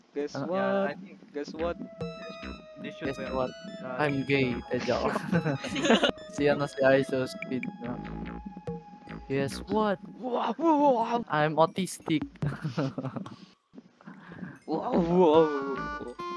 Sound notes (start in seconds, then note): 4.7 chuckles; 4.9 laughter; 12.4 chuckles